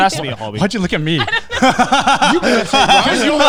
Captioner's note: laughing